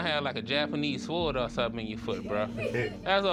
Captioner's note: laughter